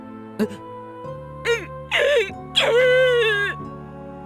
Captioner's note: more bawl